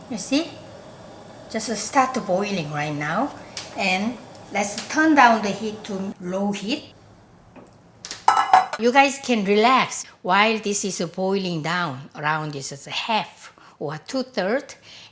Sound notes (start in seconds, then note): none